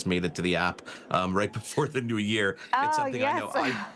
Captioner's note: laughs